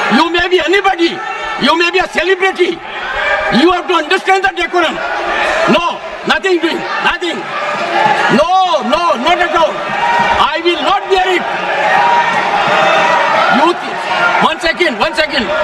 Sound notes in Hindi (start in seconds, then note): 11.1 हौसला बढ़ाने की आवाज़